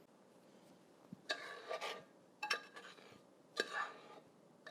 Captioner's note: utensil scrapes